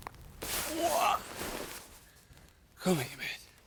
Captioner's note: Jim groaning